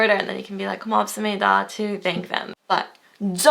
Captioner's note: foreign language